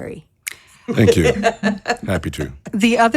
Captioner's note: laughing